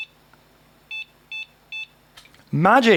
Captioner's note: beeping